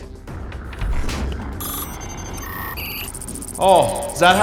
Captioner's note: electronic beeping